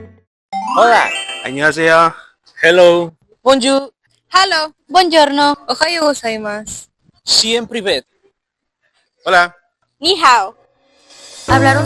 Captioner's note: people greeting in different languages